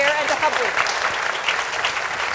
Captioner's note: applause